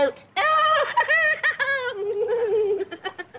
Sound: laughs

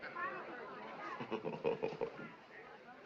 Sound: chuckles

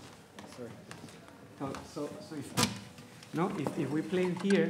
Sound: speaking Spanish; speaking faintly

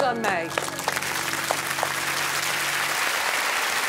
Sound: audience clapping

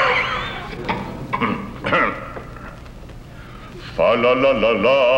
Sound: coughing; clears throat

